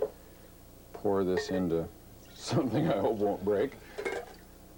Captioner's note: laughing